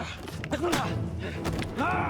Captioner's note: knee thumps; back slams; foot pounds; Orn grunts